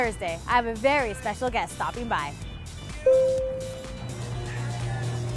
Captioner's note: sound of an elevator